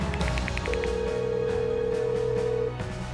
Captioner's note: phone rings